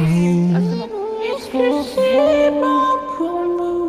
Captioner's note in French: autotune